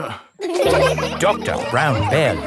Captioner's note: all laughing